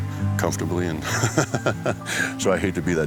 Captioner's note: laughs